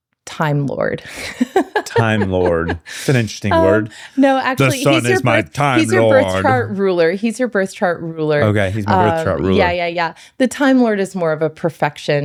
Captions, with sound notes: time lord. (laughing) Time lord. That's an interesting word. No, actually-- The sun is my time lord. He's your birth chart ruler. He's your birth chart ruler. Okay, he's my birth chart ruler. Yeah, yeah, yeah. The time lord is more of a perfection.